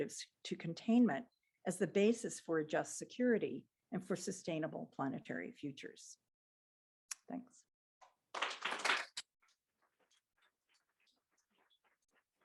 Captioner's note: applause